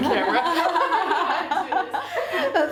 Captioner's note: laughing